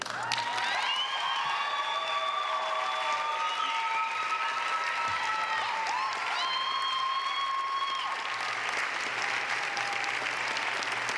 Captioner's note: applause